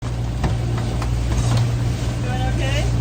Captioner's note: boat engine whirring